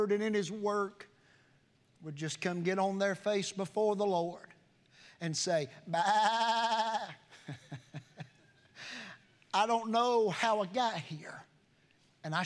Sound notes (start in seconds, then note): 5.8 preacher imitating sheep sound